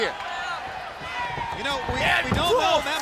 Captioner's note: footsteps plodding; head thudding